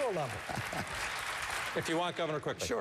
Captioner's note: applause